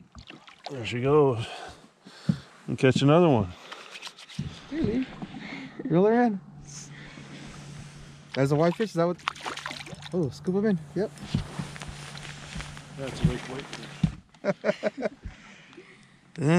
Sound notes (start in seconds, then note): 3.6 rubbing hands; 9.1 fish splashing